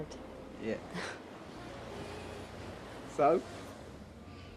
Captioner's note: laughs